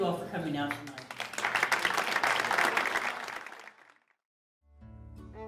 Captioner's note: applause